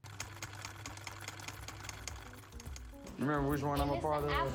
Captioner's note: typewriter keys clack